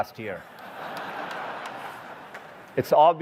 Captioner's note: laughter